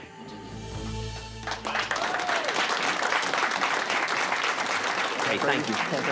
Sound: cheers and applause

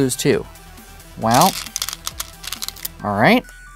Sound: stones rattling

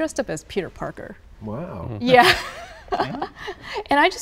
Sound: laughing

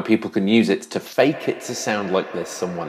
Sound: audio reverberating

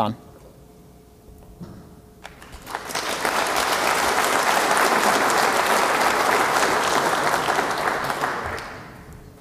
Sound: applause

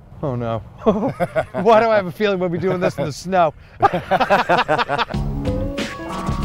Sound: laughs

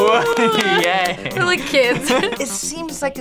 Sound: both laugh

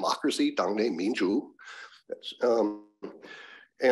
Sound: speaking another language

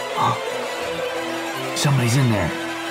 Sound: ominous music building; gasps

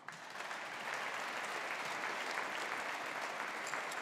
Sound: audience applauding

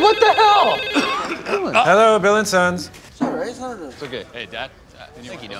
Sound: phone rings

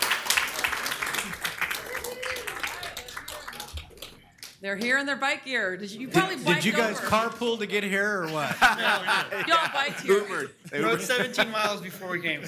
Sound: applause

